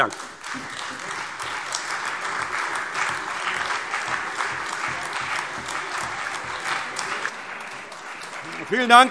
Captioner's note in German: Beifall Freie Demokraten, CDU und AfD